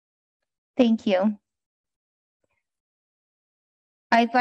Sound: silence

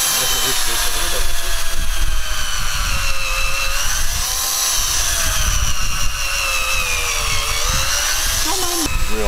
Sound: drill whirring

